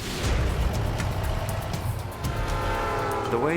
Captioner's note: truck engine; train hooting